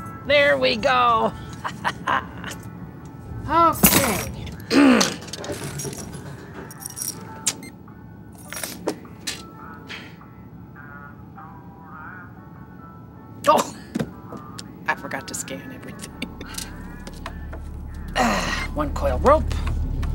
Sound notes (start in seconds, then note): 1.2 chuckles; 3.2 clears throat; 7.5 beep